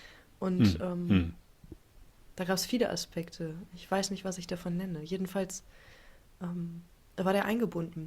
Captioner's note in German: räuspern